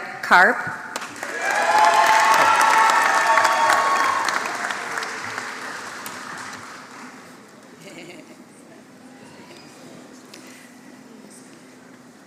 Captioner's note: applause